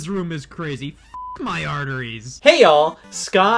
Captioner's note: beep